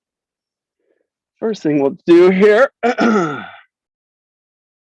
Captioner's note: clears throat